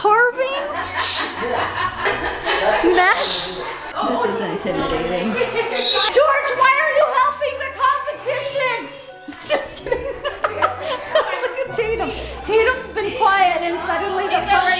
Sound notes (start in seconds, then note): 8.2 laughing